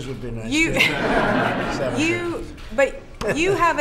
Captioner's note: laughter